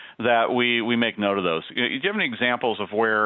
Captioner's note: none